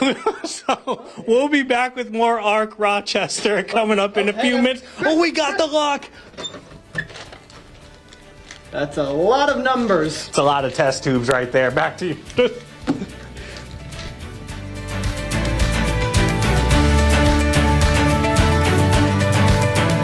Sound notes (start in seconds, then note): 0.0 laughter; 4.0 laughter